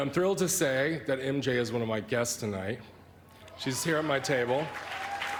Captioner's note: applause